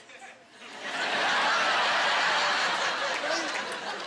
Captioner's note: laughing